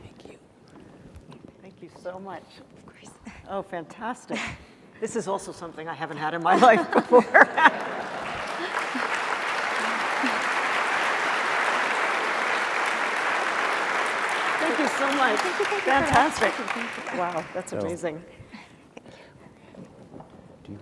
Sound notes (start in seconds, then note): 6.5 laughter; 9.9 applause